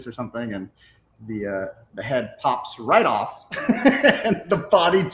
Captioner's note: laughs